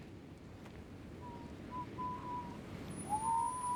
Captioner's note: whistling; both whistling